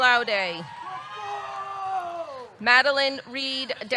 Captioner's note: audience cheering